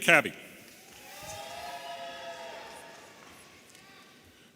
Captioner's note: audience cheering